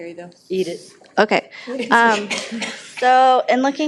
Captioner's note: members chuckle